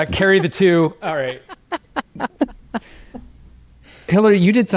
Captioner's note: laughing